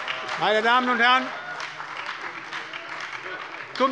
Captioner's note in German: Heiterkeit und Beifall bei der SPD